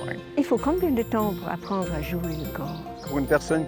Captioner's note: speaking French